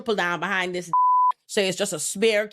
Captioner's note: beep